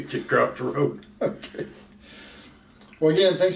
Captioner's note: laughs